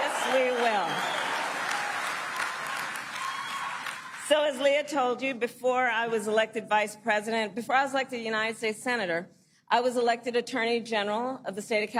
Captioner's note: cheering and applause; applause